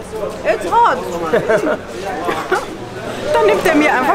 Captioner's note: laughter